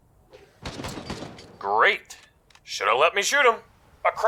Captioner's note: gunshots